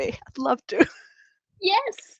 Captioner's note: laughs